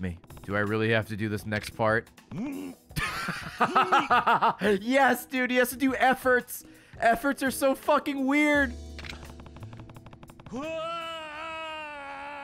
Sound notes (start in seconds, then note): 3.0 laughs